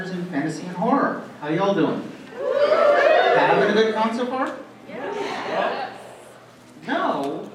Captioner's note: cheering, "yeah," one person saying "no."